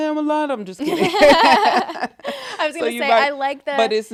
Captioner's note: laughing together